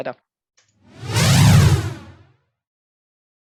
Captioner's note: air whooshing